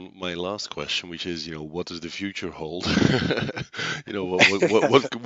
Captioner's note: laughs